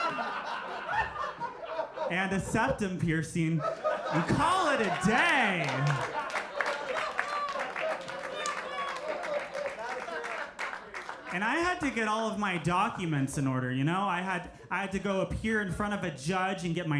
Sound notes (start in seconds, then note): 6.4 audience applauding